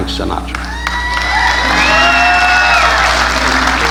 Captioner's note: audience laughing